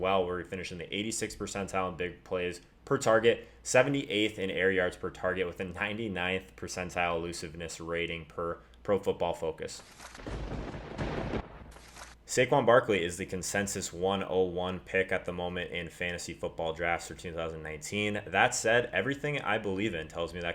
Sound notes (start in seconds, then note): 10.2 lightening and thunder; 11.3 paper ripping